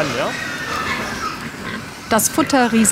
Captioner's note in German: Quietschen, Grunzen